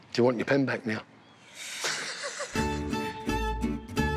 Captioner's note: laughs